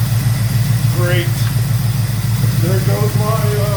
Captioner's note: engine idling